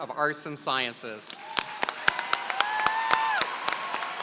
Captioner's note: applause